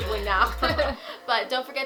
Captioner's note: laughing